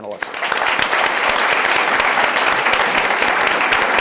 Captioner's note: audience applauds